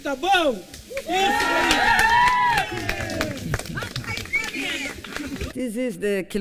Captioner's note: cheering